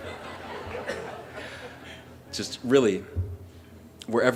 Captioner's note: laughter